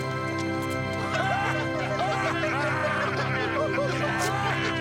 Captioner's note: laughing